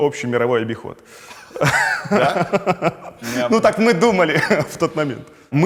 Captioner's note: laughs